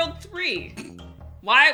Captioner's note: snorts